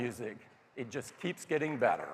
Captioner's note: applause